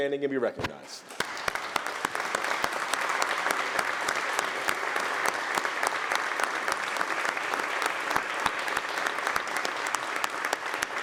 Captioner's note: applause